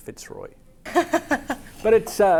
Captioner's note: laughs